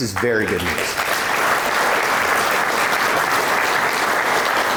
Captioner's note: audience applauding